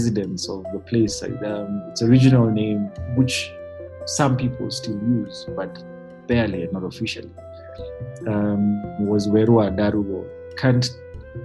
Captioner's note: foreign